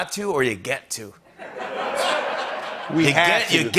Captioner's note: laughter